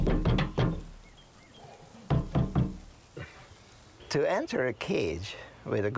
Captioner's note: chimpanzees bang on glass